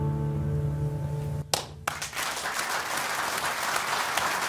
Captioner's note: applause